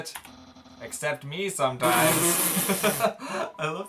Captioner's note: both laugh